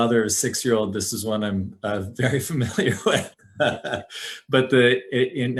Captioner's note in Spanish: risas